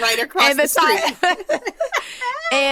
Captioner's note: laughter